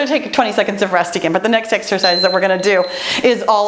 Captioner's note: timer beeps